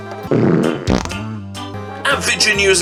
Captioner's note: farting